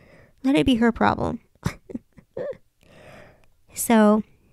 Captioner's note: chuckles